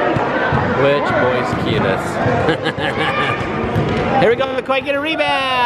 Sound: laughs

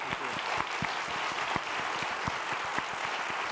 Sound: applause

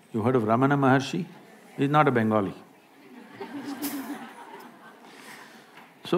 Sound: laughter

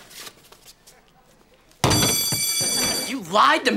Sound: fire alarm

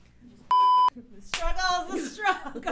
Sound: beep

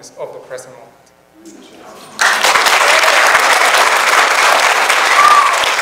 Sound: audience applauds

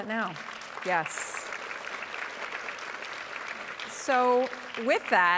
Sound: audience applauding

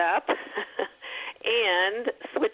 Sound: laughs

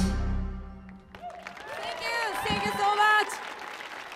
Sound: applause

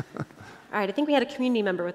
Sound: laughter

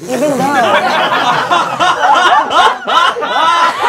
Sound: laughing

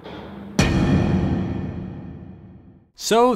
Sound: impact sound effect

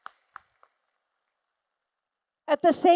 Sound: applause

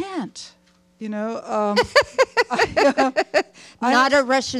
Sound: Hustvedt laughing

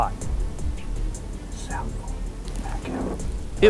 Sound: whispering

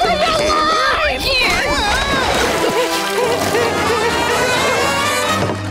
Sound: whimpering

